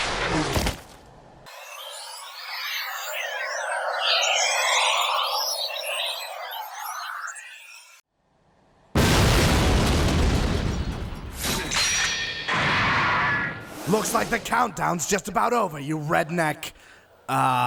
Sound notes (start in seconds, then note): 1.5 static; 8.9 explosion